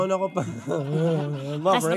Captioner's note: chuckles